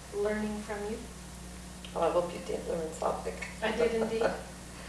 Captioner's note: laughs